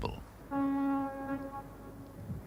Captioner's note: ship horn